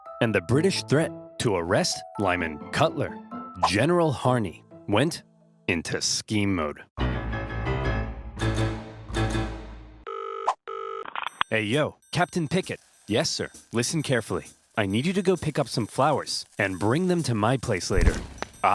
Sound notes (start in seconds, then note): 7.0 dramatic music; 10.0 phone ringing